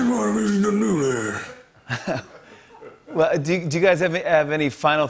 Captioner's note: chuckles